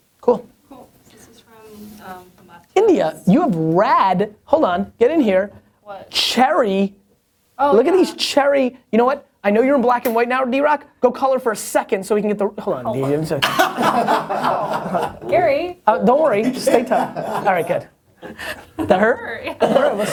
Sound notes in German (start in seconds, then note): 13.4 Lachen